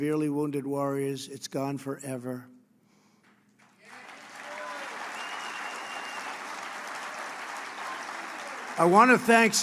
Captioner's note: applause